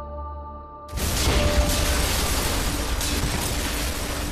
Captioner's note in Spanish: Estruendo